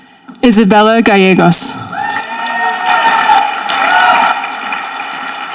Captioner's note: audience applauding